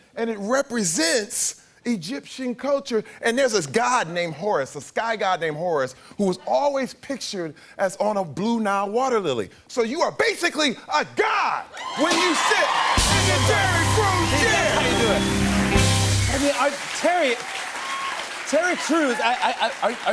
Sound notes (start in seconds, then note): 15.1 cheers and applause